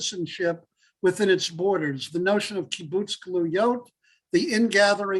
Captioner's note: Hebrew